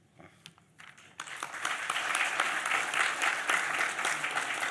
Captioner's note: audience applauds